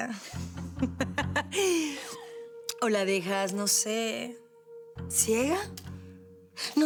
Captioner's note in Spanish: Risas